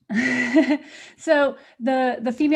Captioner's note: laughter